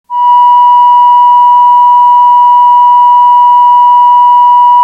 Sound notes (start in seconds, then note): 0.1 beeping